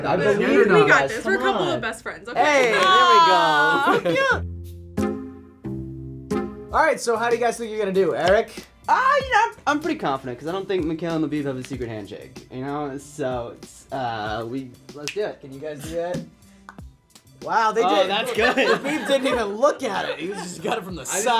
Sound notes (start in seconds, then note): 5.0 whimsical music; 14.6 snaps